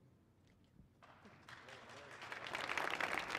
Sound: applause

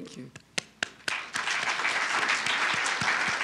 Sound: applause

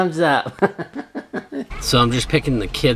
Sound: laughing

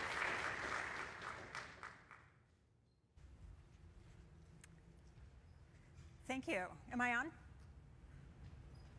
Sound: applause

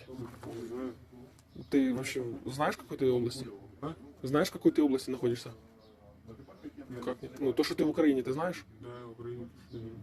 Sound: interrogating a POW in Russian

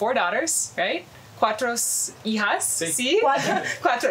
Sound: foreign language

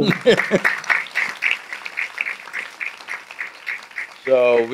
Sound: laughs; applause

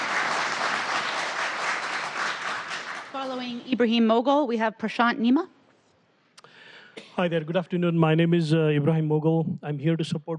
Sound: applause

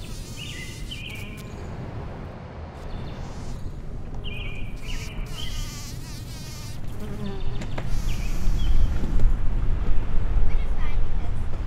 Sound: bees buzzing; birds and nature sounds

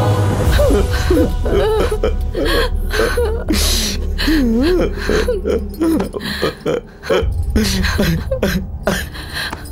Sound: crying

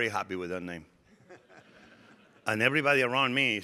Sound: audience laughing

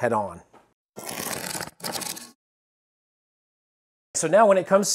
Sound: cardboard ripping

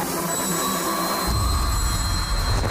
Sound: high pitch noise; flag rippling

